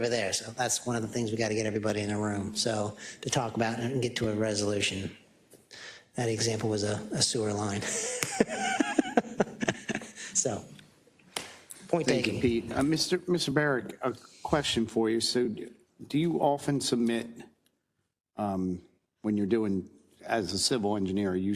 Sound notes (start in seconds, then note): 7.8 laugh